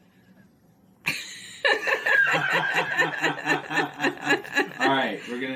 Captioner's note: laughing